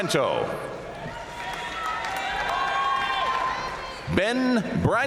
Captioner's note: audience cheering and applauding